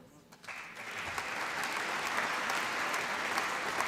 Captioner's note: applause